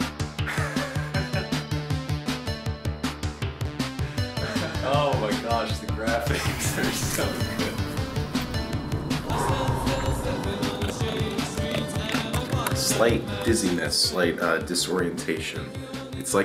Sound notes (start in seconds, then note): 0.4 laughs; 8.2 exhales